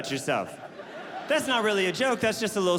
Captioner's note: audience laughing